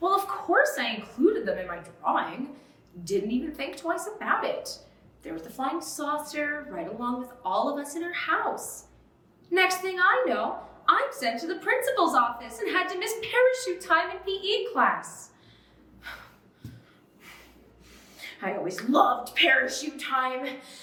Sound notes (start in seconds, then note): 16.2 voice quavers